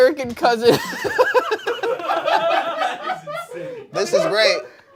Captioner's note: everyone laughs